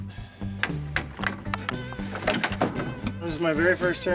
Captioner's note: crate thudding